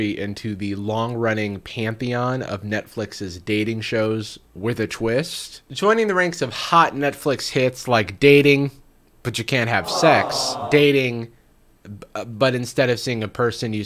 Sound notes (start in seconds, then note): 9.6 crowd